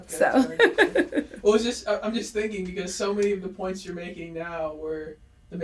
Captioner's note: both laugh